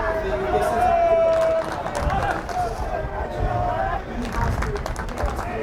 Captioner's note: fans chanting and yelling